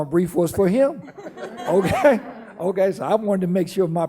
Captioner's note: laughing